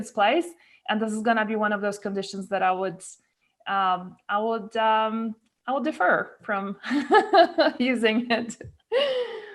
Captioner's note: laughs